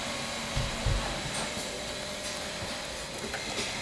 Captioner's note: machine noise in the background